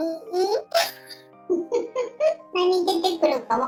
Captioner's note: laughs